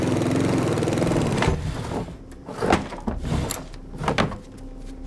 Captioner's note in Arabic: قعقعة الأشياء